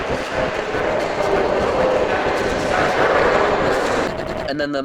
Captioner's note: even more distorted voices